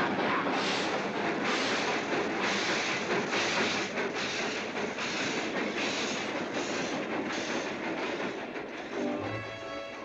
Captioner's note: train chugging past